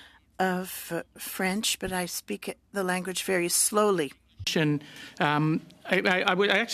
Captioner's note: speaking French